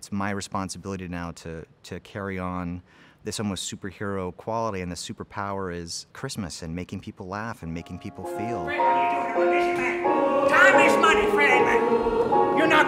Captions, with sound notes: it's my responsibility now to carry on this almost superhero quality, and the superpower is Christmas and making people laugh and making people feel. [bright piano music] [actors talking] - Time is money, Fred.